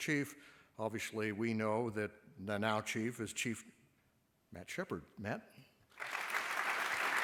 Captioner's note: applause